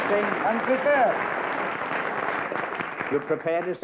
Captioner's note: applause